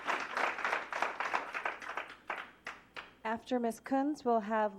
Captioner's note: applause